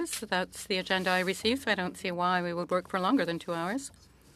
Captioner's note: speaking French